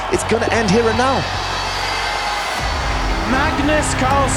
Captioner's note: crowd cheering, applauding